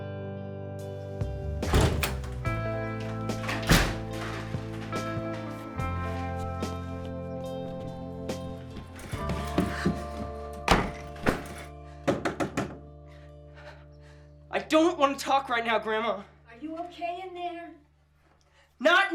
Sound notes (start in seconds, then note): 3.7 door thuds; 10.6 door thuds; 12.1 Grandma knocking